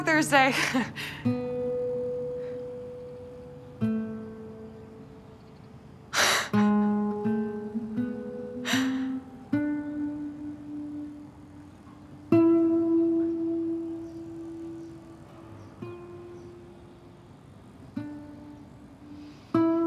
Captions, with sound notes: Talk Thursday. (chuckles) (Sam chuckles) (bleak acoustic guitar music)